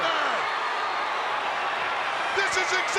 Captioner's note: crowd yelling